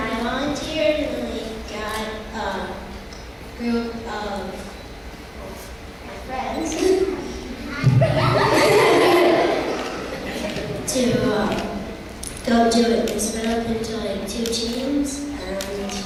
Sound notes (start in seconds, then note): 6.7 laughing